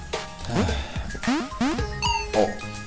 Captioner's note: relieved sigh